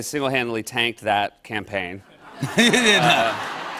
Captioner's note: laughter